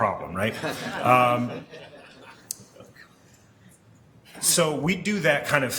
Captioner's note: laughing